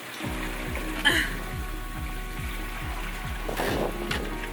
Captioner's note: laughs